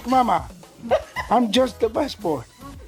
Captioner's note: laughter